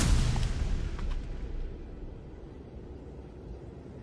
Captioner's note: wind howling